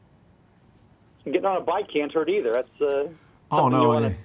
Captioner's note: voiceover